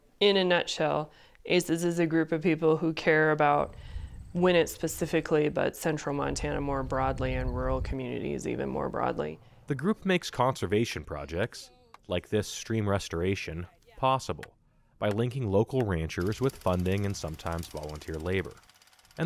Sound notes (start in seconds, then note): 10.1 voice-over